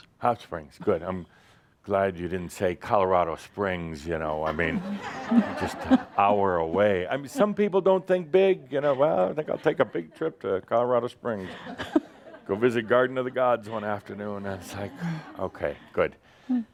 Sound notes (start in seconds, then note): 4.4 laughter